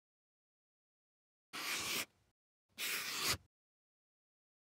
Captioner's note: marker pen scratching